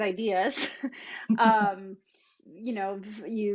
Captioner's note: both chuckling